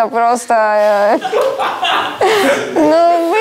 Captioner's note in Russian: Смех